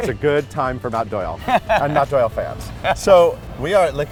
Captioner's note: Matt chuckles